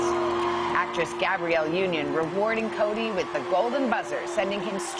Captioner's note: applause